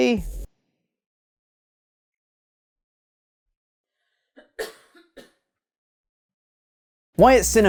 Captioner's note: record scratch, include long pause & dry cough